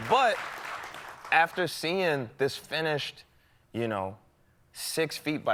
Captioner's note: applause